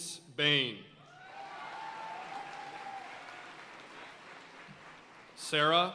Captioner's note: audience cheering and applauding